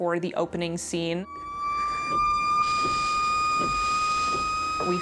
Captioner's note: sirens wailing